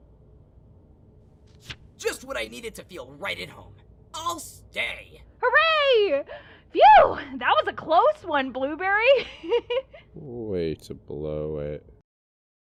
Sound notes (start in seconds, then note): 9.5 laughs